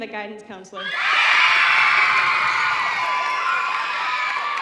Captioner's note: audience cheering